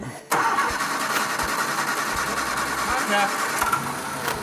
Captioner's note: car engine roaring